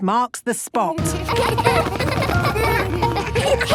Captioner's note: laughter